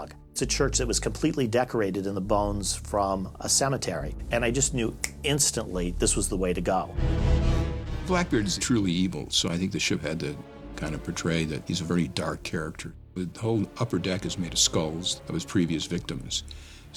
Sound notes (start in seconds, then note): 5.0 snaps fingers